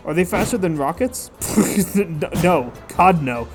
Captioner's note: incredulous scoffing